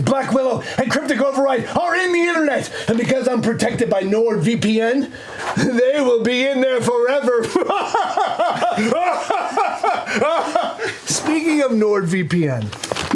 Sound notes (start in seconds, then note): 7.4 evil laugh